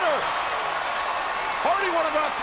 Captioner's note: audience cheering